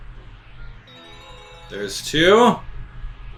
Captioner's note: coin chimes